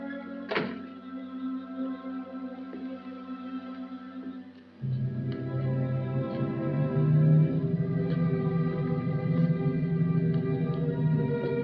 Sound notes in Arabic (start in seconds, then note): 0.4 يُغلق الباب; 2.4 خطوات; 5.3 تُعزف موسيقى غريبة